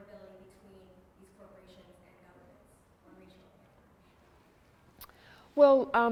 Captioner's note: speaks faintly